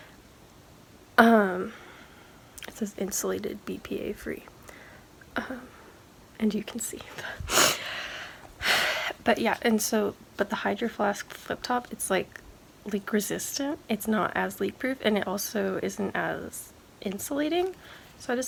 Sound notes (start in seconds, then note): none